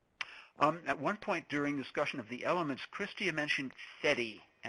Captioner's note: voiceover